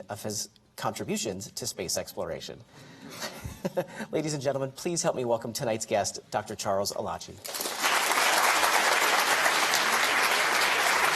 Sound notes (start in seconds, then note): 3.3 cheerful laughter; 7.5 audience applauding